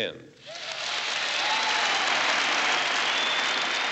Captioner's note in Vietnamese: Tiếng vỗ tay, hò hét